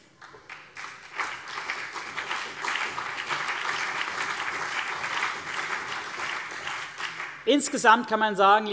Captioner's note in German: Beifall CDU und BÜNDNIS 90/DIE GRÜNEN